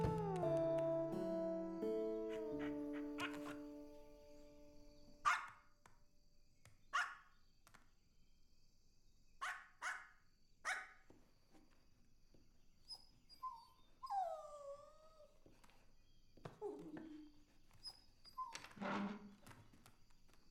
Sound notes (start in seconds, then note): 1.0 bumps door open; 2.4 panting; 5.2 playful bark; 9.4 continues barking; 14.9 whines and whimpers